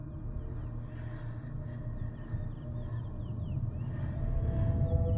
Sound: creepy whispers

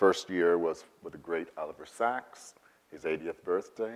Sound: none

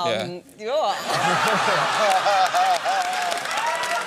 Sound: laughter

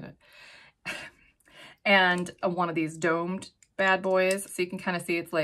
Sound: chuckles

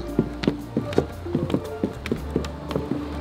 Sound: footsteps

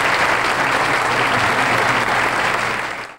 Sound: audience applauding

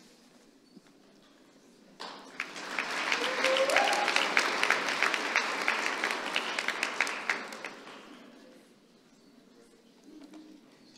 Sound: applause

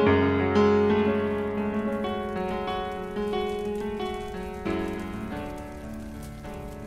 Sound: fire crackles; piano music fades; fire crackles

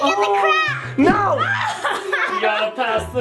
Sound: both laughs

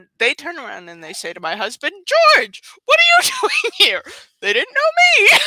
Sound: laughs

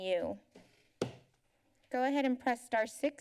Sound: thud

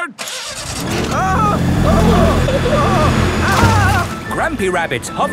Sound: grandpa screaming

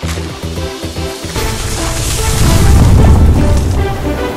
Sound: sounds of worldwide catastrophe

